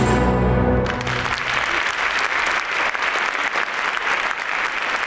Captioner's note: audience applauds